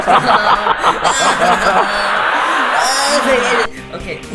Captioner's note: cue the weird Laughing